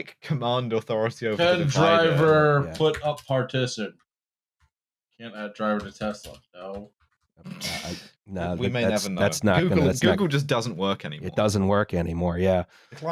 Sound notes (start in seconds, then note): 1.5 keyboard tapping; 6.8 keys tapping